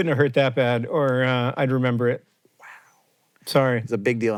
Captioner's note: whispering